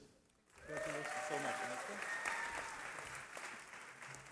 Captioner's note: cheering